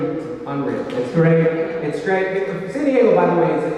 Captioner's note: mimics kissing sound